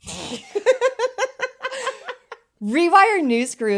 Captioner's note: both laughing